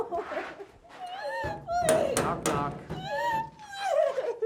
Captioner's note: door banging; Isabel screaming; door closes